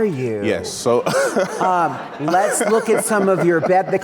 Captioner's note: audience giggling